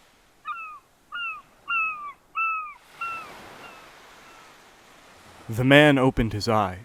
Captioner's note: ocean sounds; seagull squaking